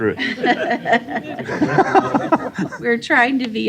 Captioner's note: laughter